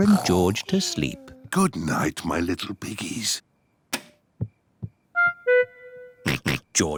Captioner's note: light switch clicks; oinks